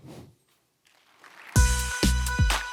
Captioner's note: applause